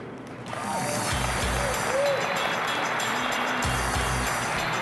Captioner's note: applause